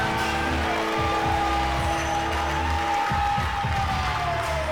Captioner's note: crowd cheering